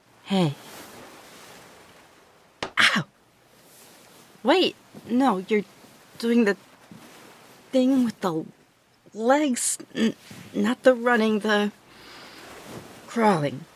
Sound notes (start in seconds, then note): 2.4 thud; 3.4 rustling